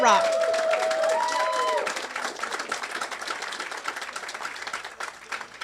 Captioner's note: congregants cheering and applauding